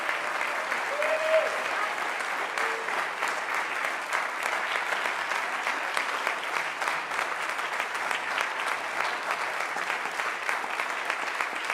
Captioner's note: applause